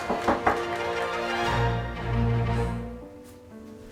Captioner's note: knocking